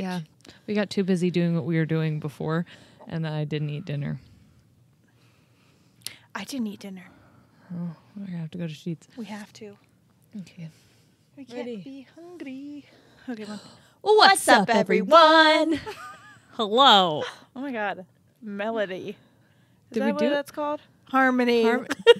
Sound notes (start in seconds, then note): 15.8 chuckling